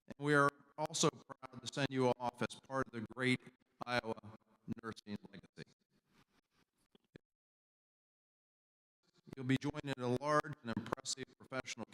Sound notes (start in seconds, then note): 5.9 audio cuts out